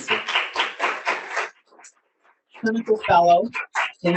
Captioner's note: audience cheering; audience applauding